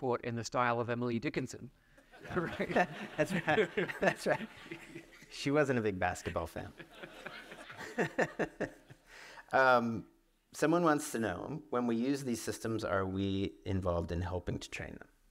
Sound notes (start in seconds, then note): 2.1 audience laughs; 6.1 laughs